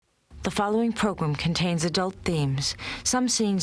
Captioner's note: voiceover